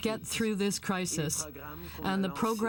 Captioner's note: speaking French